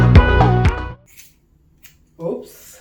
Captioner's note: snipping sound